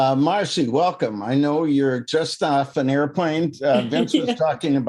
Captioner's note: laughs